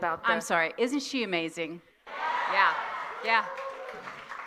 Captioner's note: cheers and applause